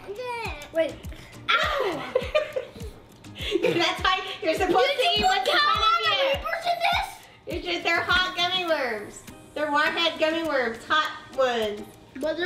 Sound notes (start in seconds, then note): 1.5 cries; 3.3 laughs; 6.8 speaks off mic